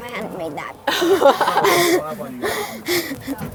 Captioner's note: laughs